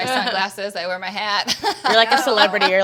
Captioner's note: panelists laughing